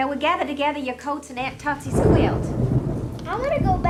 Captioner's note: thunder rumbling